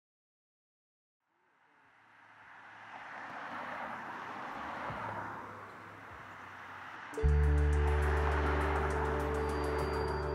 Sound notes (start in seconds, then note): 1.6 vehicles driving past; 7.1 gentle music